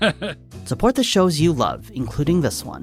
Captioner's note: laughs